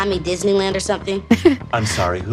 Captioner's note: Priah laughs